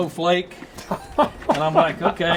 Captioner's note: host laughing